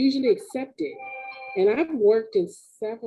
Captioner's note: phone ringing